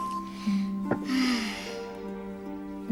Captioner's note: sighs